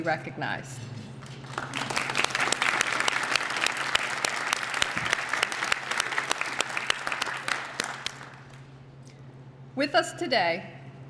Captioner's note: applause